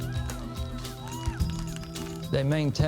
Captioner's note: fans cheering; fans applauding